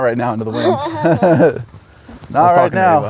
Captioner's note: laughs